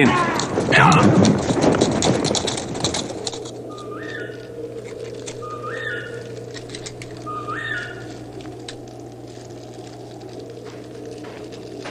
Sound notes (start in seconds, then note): 3.3 bird-like call; 8.7 bird-like whistling